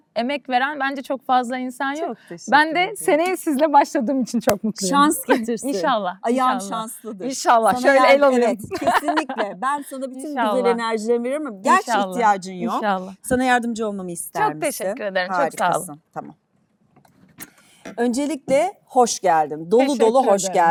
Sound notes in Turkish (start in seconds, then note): 8.6 kahkaha